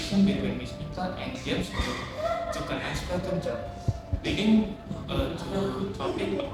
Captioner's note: crying in the background